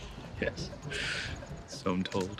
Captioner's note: laughs